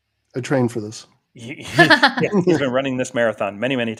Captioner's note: everybody's laughing